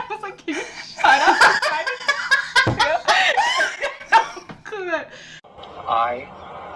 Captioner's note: more wheezing